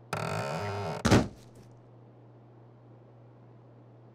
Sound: body thudding

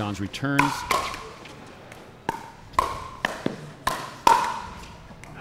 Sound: ball bouncing

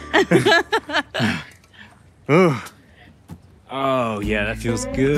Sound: sister laughs

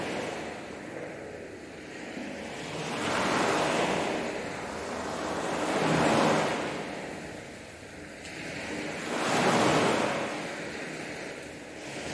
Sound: water sounds

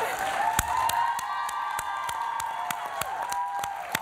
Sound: applause

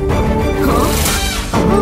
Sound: gasps

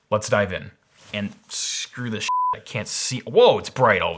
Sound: beep

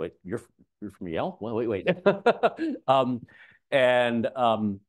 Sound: laughs

